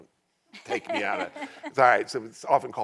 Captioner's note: all laughing